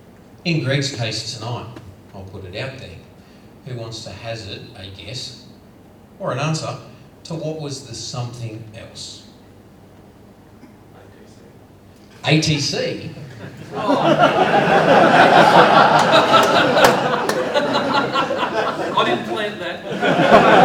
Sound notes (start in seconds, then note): 13.1 all laugh; 20.4 laughter